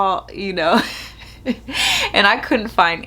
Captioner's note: chuckles